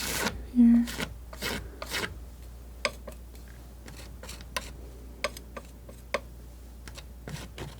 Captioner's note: scratching